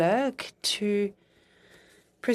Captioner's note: speaking in French